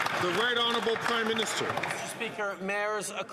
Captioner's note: some Applause